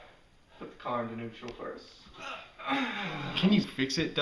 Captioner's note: Alex groans in frustration